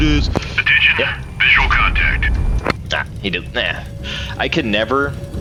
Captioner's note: stutering